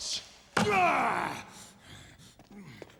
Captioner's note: screams